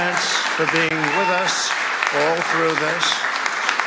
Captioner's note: cheers and applause